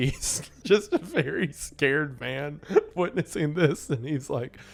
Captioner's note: laughing